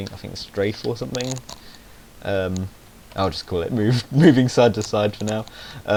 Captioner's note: he snickers